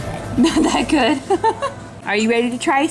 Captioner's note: laughs